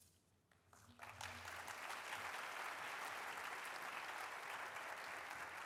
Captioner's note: audience applauding